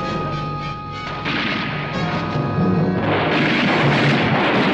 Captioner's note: bullets firing